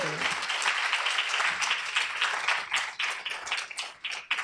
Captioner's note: applause